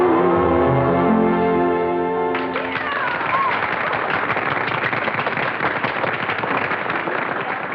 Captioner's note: applause